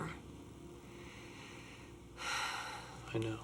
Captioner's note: sighs